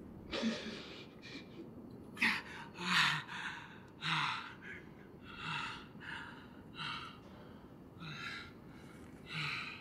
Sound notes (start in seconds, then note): 2.4 moans